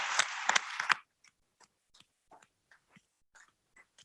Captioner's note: audience applauds